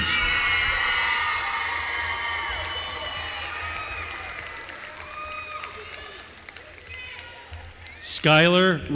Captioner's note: applause